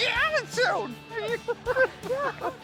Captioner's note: laughing